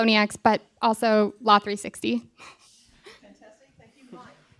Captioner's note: laughter